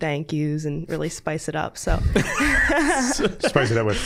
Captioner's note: all laughing